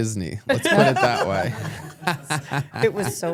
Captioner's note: everyone laughs